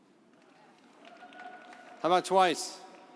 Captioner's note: audience applauding